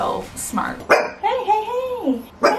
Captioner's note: dog barks